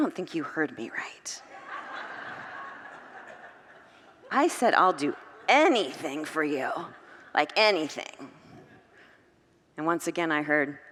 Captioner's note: congregants laugh